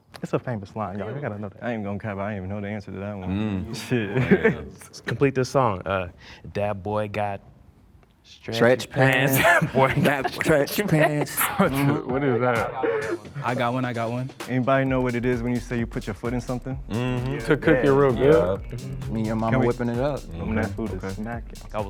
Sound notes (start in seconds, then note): 4.0 chuckles; 10.9 men laughing